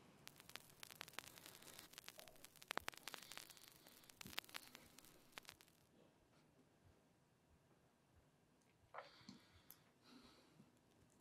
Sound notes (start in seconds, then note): 0.0 Static; 5.3 static stops